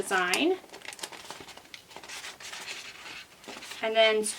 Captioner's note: paper shuffles